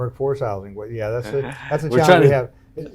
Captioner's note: chuckles